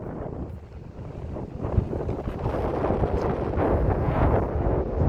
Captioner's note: strong wind noises